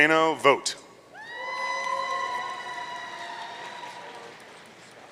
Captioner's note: audience cheering